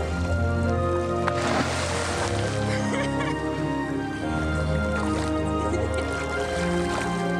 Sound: moving instrumental music; water splashing; laughing

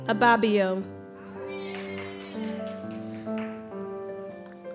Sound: applause

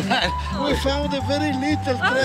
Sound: laughter

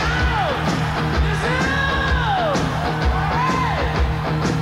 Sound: shouts; audience cheers

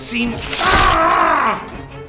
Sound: yell of pain

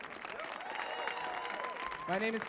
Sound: audience cheers and applauds

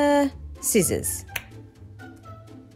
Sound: finger snap

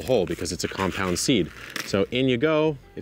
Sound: seeds rattle

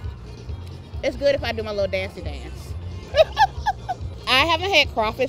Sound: laughing

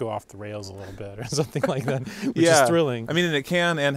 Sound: laughing

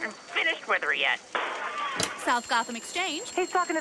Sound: glass shatters

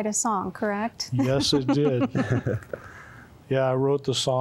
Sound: laughter

